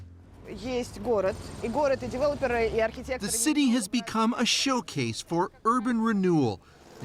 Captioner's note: speaking russian